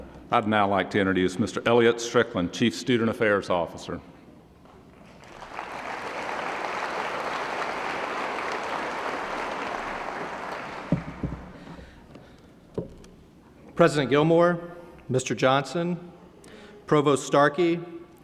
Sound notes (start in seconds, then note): 5.0 applause